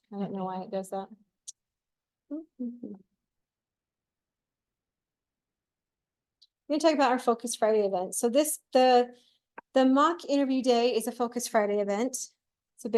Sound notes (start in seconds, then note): 2.3 hums